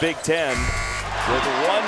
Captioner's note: buzzes